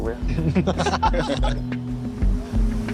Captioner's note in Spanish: todos ríen